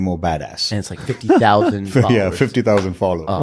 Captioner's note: laughs